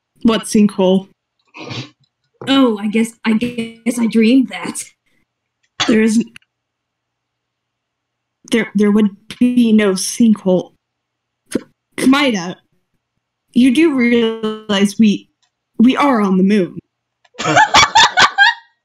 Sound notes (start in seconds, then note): 1.6 small laugh; 3.4 glitching; 9.4 glitching; 13.8 glitching; 17.4 loud laughter